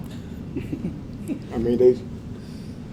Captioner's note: laugh